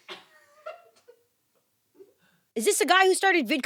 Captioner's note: crew laughs